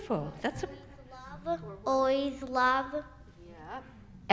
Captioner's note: young voice